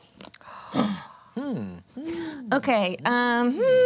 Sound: gasps

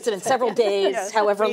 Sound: laughter

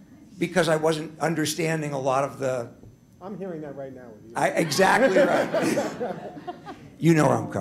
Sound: laughter

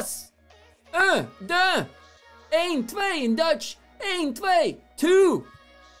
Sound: speaking foreign languages

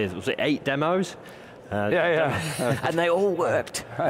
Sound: laughing

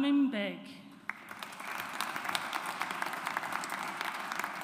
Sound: audience applauds

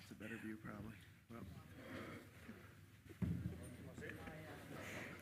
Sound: members chattering

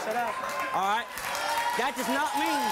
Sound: audience applause

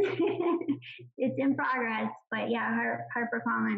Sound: laughs

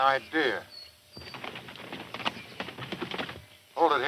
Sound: hooves clopping

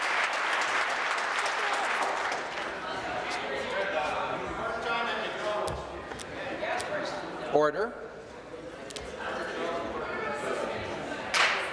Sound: applause

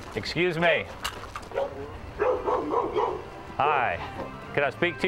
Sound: dog barking

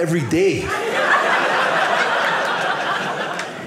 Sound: audience laughing

